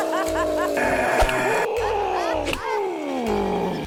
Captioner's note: yelps; groans; growls softly; grunts